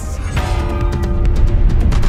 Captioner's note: bell gongs; tense upbeat music